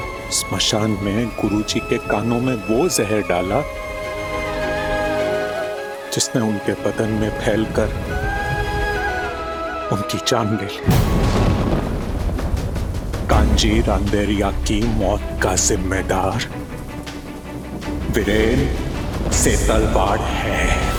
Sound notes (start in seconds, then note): 10.9 thunder rumbling